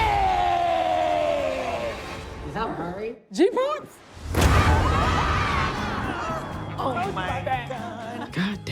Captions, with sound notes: - Is that Murray? [everyone shouts] - Oh my god.